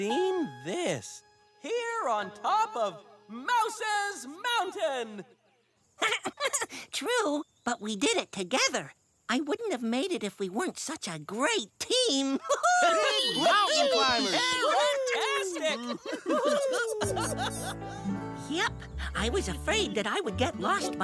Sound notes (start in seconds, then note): 6.0 chuckles; 12.4 laughing and cheering